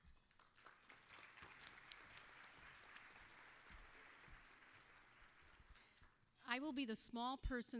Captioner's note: applause